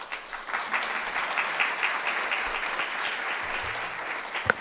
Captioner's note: audience clapping